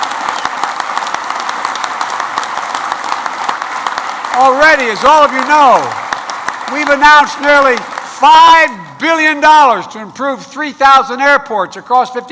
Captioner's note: applause